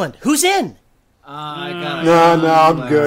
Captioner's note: grumbling, excutes, nope